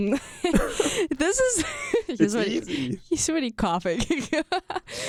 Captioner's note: laughs